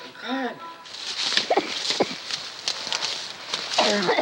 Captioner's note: branches rustling; coughing